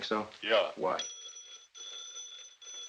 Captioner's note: phone rings